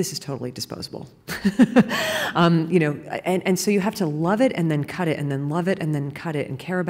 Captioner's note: laughing